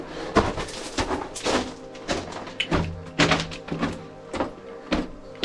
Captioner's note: footsteps thudding